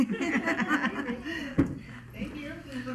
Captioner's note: chuckling